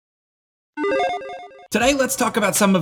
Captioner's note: logo beeps